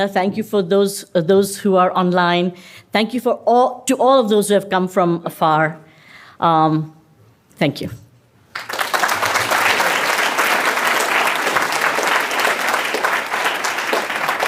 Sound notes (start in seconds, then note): 8.4 applause